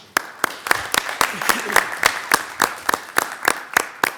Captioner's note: attendees applauding